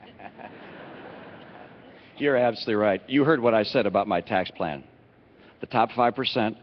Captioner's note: laughter